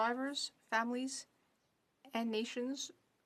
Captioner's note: speaking French